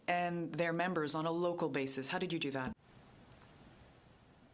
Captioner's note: speaking French